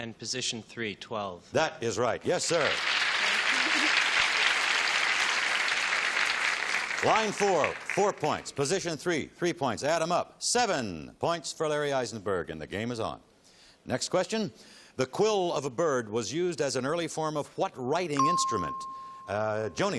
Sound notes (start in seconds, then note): 3.4 chuckles; 5.0 applause